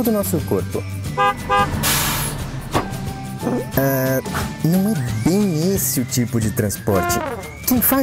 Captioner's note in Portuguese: Barulho de caminhão e buzina